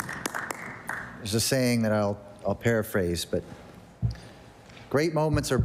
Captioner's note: applause